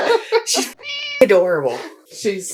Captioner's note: meow